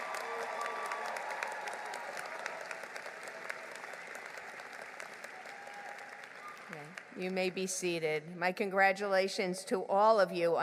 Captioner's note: applause